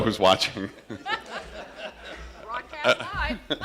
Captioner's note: laughter